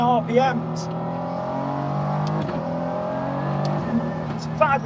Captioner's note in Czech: motor auta řve